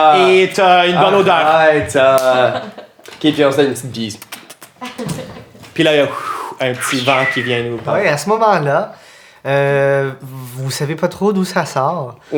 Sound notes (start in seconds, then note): 6.7 sound of wind